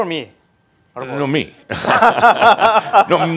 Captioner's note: they laugh